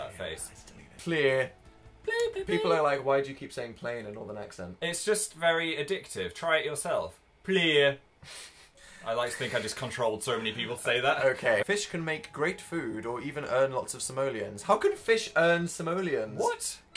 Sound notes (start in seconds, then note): 1.3 in a Northern Accent; 6.8 in Northern Accent; 8.2 nose exhale